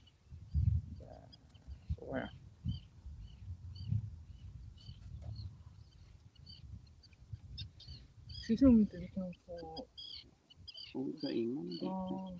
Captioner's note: indistinct chatter